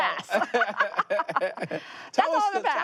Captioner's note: laughter